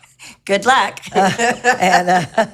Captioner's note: both laughing